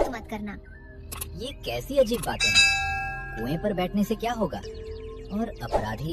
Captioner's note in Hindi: घंटी की आवाज़